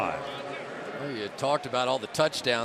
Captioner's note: announcer on loudspeaker